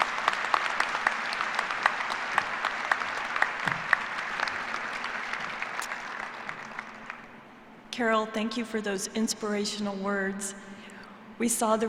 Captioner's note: applause